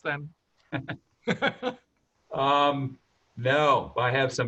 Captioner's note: laugh